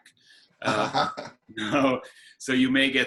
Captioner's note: chuckles